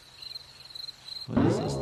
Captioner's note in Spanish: grillos chirriando